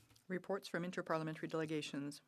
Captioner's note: speaking French